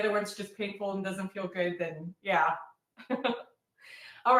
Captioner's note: chuckles